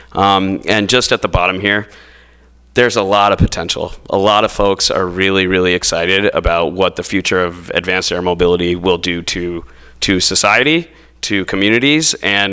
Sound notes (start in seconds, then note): none